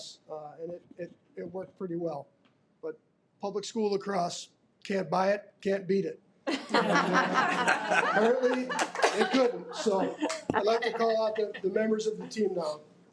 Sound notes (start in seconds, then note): 6.5 audience laughing